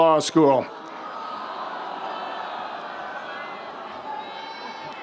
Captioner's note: crowd groans and laughs